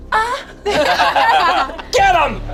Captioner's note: group laughs